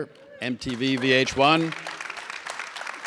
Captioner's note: audience claps